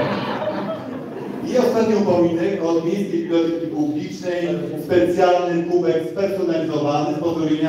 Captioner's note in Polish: Śmiech z sali